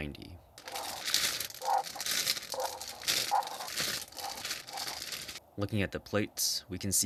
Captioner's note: bag opening noises